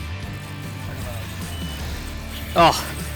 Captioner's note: fishing rod reels